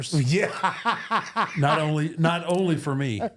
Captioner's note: laughs